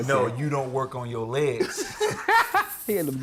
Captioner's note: laughing